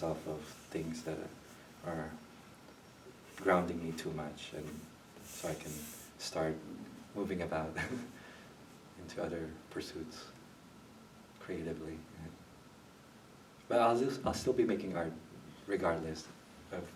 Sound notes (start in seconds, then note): 7.7 chuckles